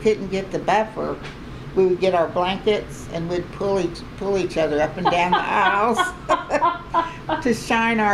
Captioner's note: laughter